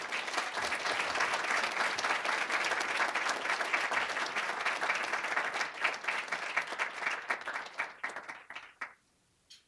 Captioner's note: applause